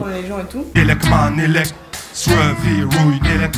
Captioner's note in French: beatbox